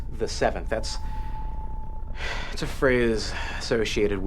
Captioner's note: sighs